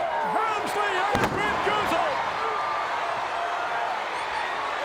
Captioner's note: body thuds; audience chattering